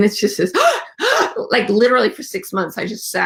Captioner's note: gasps